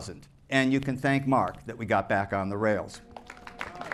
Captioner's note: applause